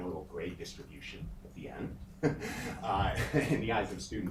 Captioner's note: chuckles